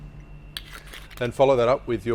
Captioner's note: rum pours; lid twists